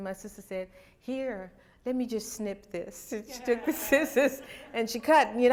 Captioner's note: laughter